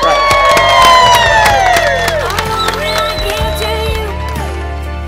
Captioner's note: yelling and clapping